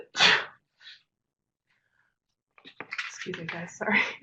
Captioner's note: sneezes